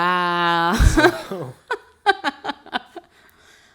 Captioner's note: laughing